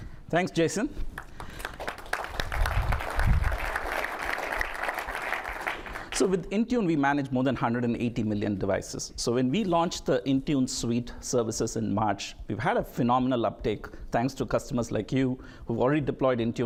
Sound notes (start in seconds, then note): 1.1 applause